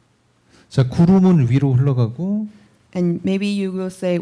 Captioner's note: speaking korean